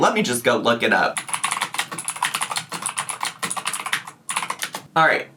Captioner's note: keyboard clacking